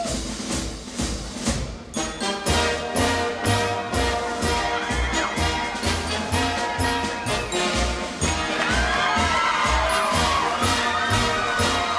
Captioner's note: crowd cheering